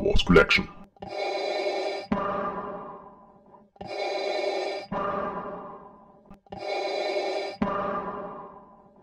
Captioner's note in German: Darth Vader Atemgeräusche